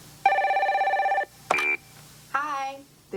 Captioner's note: phone ringing, beeps